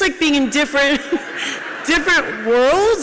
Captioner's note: audience laughs